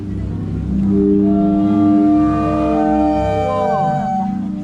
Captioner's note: the sound of the sea